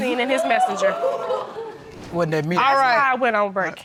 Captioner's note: audience exclaiming